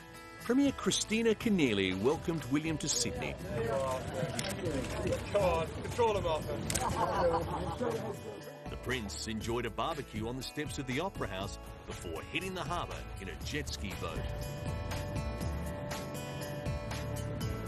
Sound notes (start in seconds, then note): 3.7 cameras clicking; 6.1 people laughing; 14.7 pleasant music